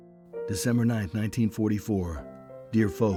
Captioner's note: light instrumental music; voiceover